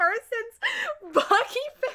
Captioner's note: inhale